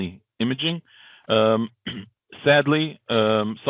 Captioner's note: clears throat